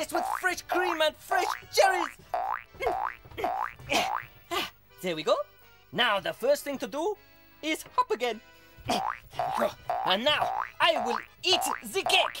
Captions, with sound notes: laced with fresh cream and fresh jellies! (sighs) There we go. Now the first thing to do is hop again. And now, I will eat the cake.